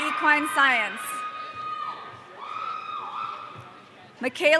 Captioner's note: audience cheering